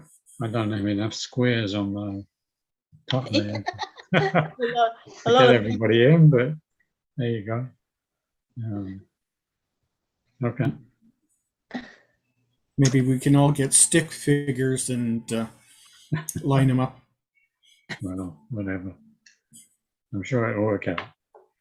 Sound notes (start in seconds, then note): 3.1 attendees laughing